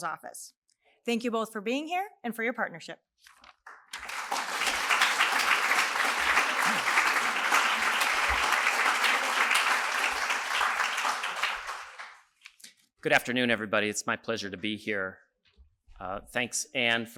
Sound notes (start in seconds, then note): 12.0 applause